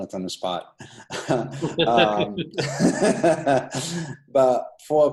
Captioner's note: laughter